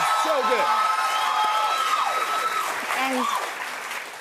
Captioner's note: cheers and applause